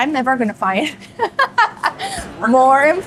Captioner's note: laughs